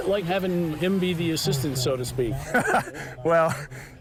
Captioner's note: laughs